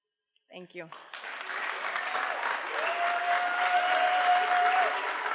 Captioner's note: cheering